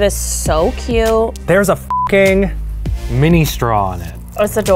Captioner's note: beeps